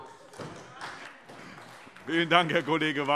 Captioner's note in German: Beifall SPD